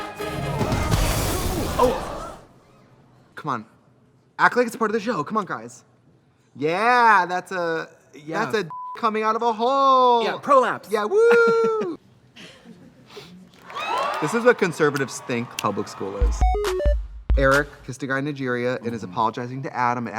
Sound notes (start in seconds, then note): 1.5 crowd exclaims; 8.7 beep; 11.1 laughs; 13.6 cheers; 13.6 crowd cheers; 16.2 fun music